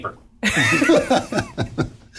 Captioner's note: all laugh